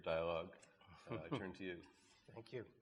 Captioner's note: chuckles